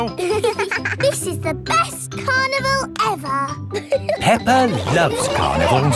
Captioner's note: both giggling